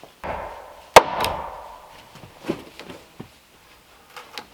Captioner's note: hammering